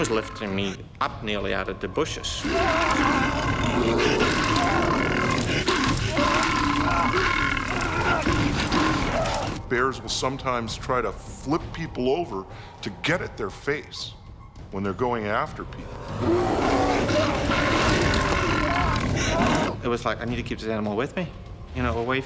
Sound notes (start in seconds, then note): 2.2 bear growling; 2.7 man groaning; 15.8 bear growling; 16.6 man groaning